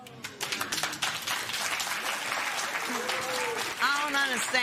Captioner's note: applause